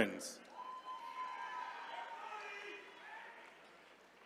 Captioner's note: attendees cheering